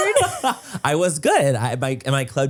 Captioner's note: Manny laughs